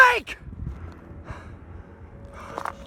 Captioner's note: pants